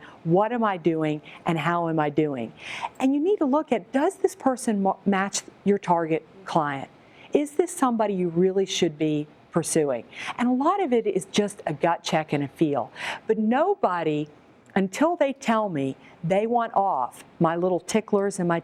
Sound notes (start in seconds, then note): none